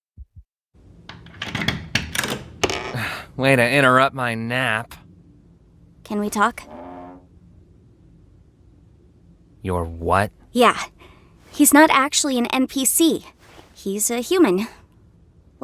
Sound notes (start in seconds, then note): 1.1 door latch clicks; 2.9 sighs